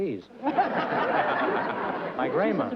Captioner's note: laughter